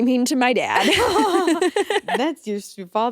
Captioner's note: both laughing